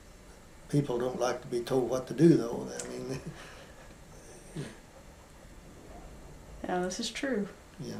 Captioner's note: laughs